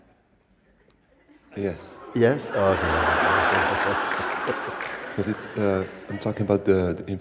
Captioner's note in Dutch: gelach